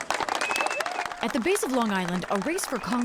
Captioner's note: cheering and applause